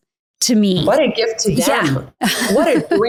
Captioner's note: chuckles